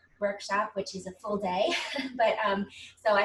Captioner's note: chuckles